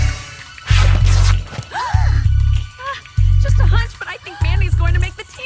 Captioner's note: gasp